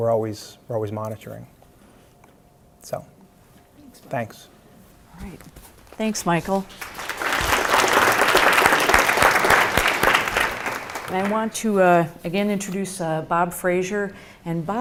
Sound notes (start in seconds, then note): 6.6 applause